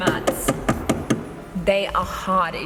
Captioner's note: thud, thud, thud!